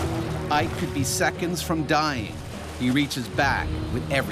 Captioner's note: voiceover